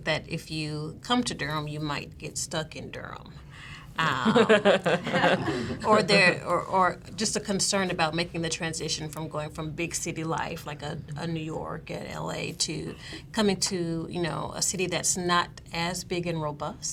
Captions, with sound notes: that if you come to Durham, you might get stuck in Durham. (laughing) Or just a concern about making the transition from going from big city life, like a New York, an LA, to coming to a city that's not as big and robust.